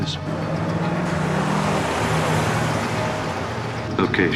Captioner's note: engine revving